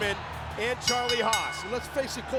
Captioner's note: bell rings